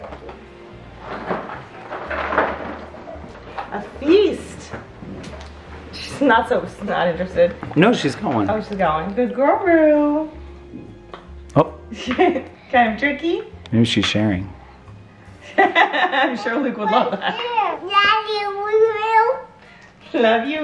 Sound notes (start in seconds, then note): 11.9 chuckles; 15.5 laughs